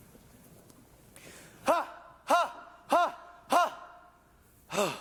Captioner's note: training noises